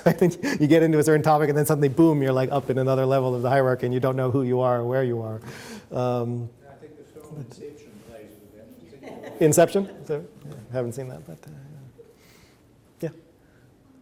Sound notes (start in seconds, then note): 8.9 audience laughs